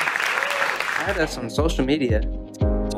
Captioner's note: applause